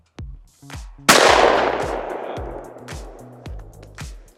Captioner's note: gun shooting